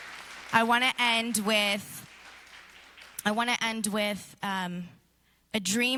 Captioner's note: applause